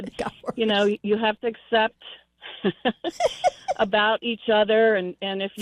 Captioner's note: laughs; laughs